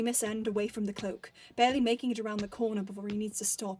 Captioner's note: footsteps stop